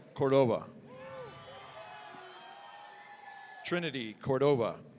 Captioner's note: audience cheering